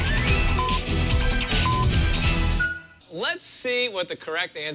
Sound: electronic beeping

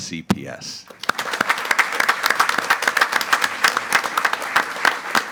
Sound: group applauding

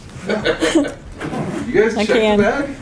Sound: laughs

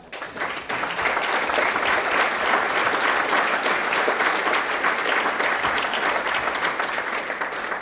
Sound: applause

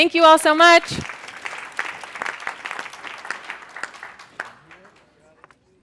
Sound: applause

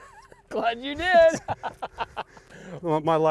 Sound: laughs

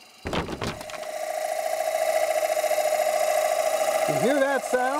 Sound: tools buzzing

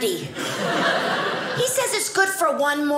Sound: audience laughing

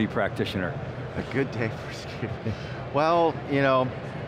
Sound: laughing

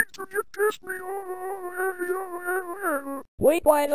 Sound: Mario Laughing

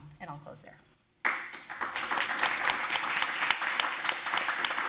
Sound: audience applauding

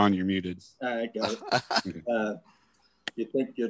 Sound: laughing

